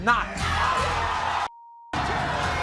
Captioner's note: cheering